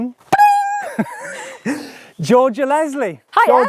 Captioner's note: laughs